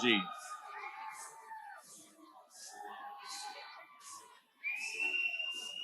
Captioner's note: audience cheers continue